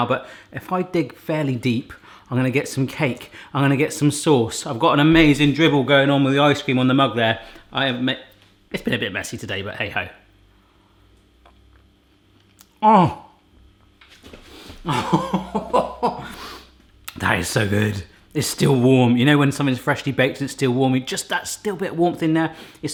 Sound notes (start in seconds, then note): 12.7 groaning; 14.8 laughing